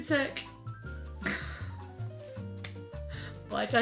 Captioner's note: both laughing